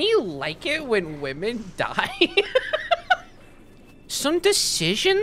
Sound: laughing

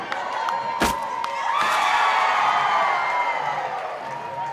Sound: cheering

